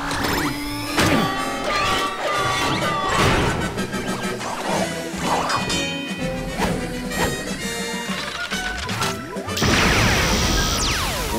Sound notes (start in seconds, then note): 0.8 alarm sounding